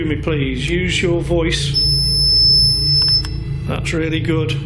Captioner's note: REM pod beeping